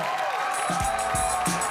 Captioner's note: audience cheering; upbeat music